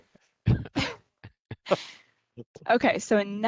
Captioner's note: laughing